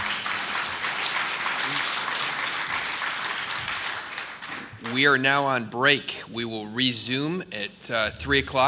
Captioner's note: applause